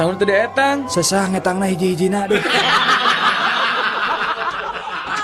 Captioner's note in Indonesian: tertawa